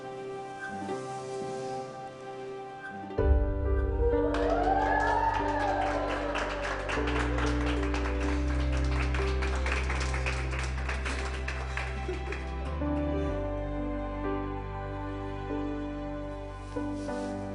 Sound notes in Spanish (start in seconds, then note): 6.6 Aplausos